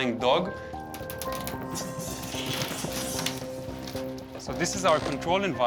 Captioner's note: bats screech